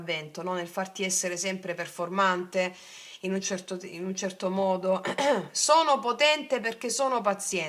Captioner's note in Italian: schiarire la voce